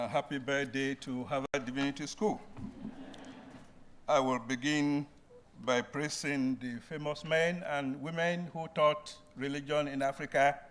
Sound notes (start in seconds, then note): 2.6 brief laughter